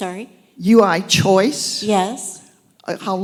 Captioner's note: voiceover